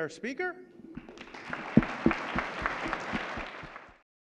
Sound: clapping

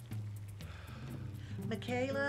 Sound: he sighs

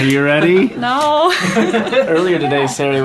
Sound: people laughing

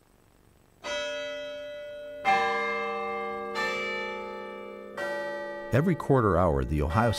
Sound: bell ringing

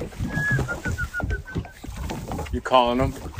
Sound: whistling

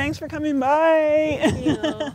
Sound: laughter

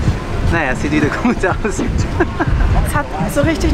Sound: laughs

